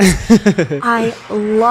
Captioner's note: laughs